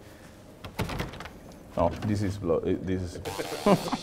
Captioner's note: door rattles; laughter